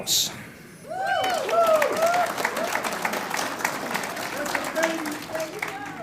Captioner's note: audience cheers and applauds